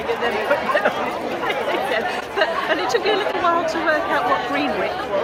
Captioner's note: laughs